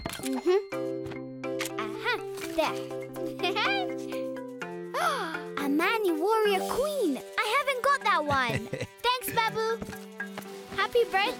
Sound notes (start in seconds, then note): 3.4 gasping; 8.4 Babu chuckling